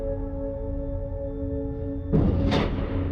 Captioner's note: thump whoosh